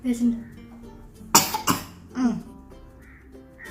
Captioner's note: coughing